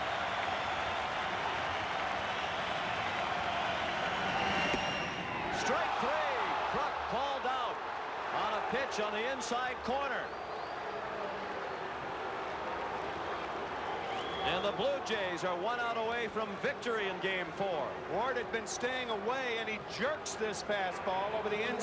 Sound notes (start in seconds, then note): 0.0 applause; 11.3 booing